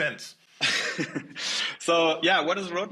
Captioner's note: chuckling